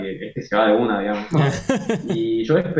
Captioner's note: laughs